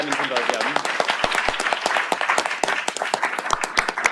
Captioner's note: applause